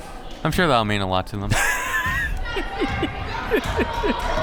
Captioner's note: laughs